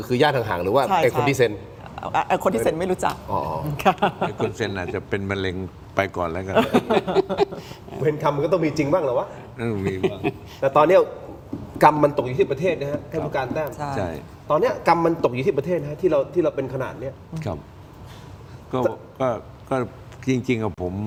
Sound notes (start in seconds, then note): 6.5 laughs